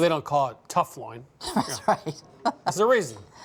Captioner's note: chuckling